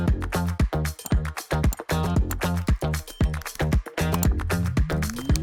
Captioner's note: keyboard clacking; mouse clicking; notification pings